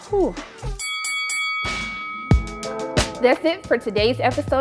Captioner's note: bell dings